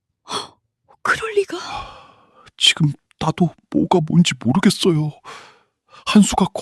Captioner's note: gasp; sigh; sigh